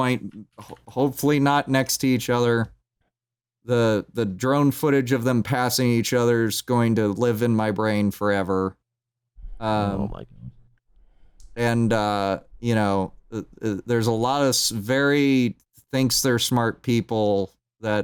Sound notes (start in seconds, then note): 0.2 keyboard tapping; 10.0 quietly